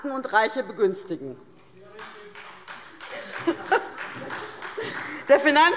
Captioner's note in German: Beifall SPD